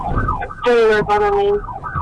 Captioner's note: radio chatter